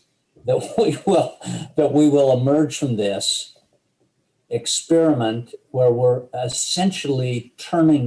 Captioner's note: laughs